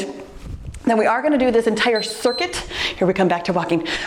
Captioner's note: timer beeps